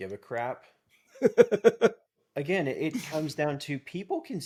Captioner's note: laughing